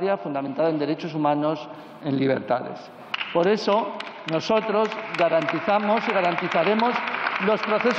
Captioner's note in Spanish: Aplausos